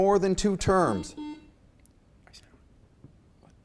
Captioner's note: beep